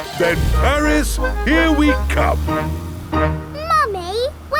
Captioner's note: none